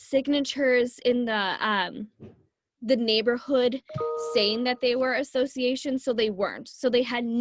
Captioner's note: computer ding